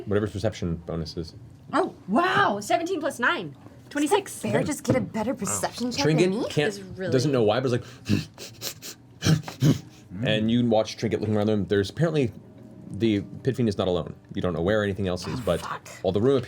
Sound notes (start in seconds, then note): 7.9 sniffs